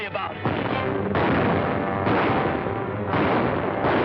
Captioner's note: gunshots